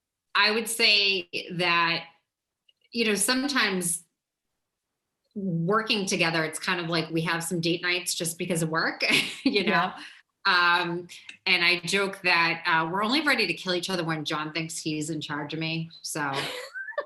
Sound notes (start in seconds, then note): 10.4 chuckles; 16.3 laughs